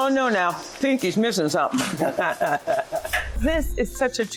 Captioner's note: laughing